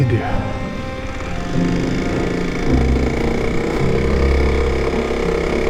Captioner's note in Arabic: هدير المحرك